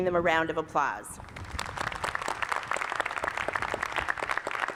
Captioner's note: applause